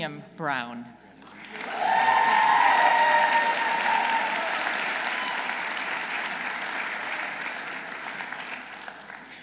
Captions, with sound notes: Dr. William Brown. -(audience cheering) -(audience applauding)